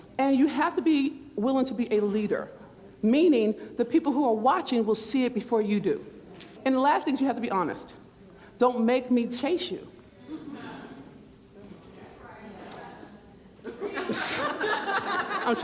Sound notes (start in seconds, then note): 10.6 speaking faintly; 13.5 murmurs; 13.6 laughter; 14.2 scoffs